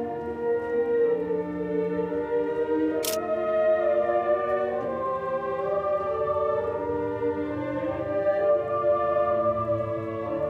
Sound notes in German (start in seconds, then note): 3.0 Klicken